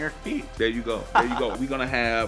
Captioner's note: laughter